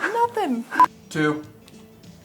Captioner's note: beeps